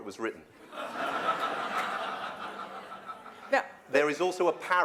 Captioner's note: laughter